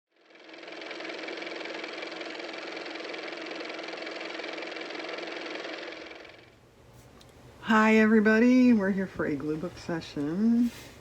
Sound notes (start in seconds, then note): 6.2 car motor